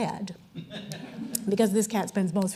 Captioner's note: audience chuckling